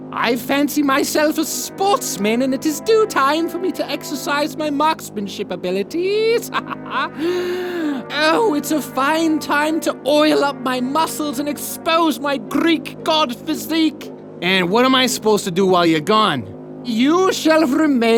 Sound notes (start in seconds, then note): 6.2 laughs; 7.2 gasp